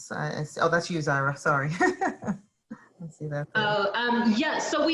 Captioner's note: chuckles